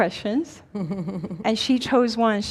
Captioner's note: chuckles